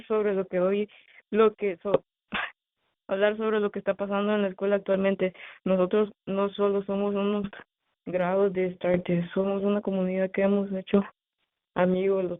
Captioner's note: speaking in spanish